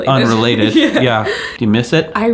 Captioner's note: laughing